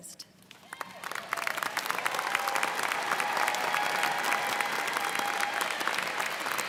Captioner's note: students cheering and applauding